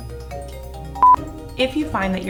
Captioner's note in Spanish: bip